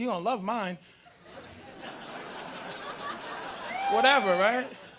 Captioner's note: audience laughing